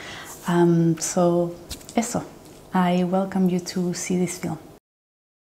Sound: speaking in Spanish

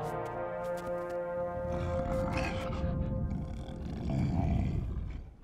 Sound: Appa grunting

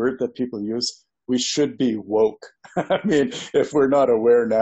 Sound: laughs

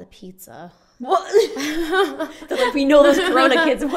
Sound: laughs

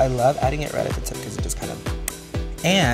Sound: lips smacking

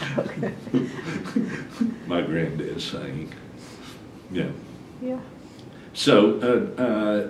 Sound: laughter

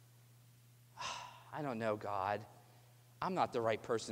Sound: sigh

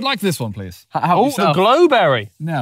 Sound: laughing

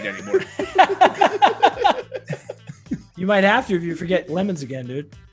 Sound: laugh

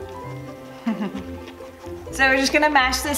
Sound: chuckles

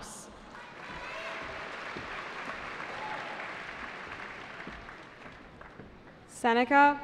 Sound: cheering

